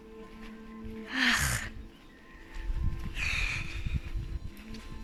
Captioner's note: sigh